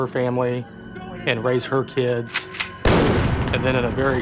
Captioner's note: gunshot